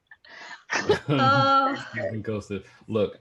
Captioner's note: laughter